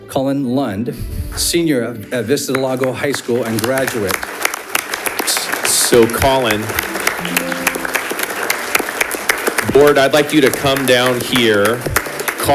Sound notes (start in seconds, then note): 4.4 audience applauding